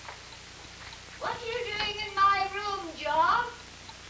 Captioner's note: gran, calling up the stairs